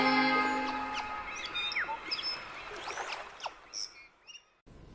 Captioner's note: birds squawking